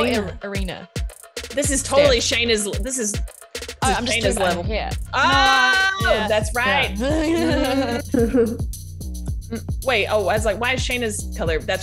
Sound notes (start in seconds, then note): 0.1 laugh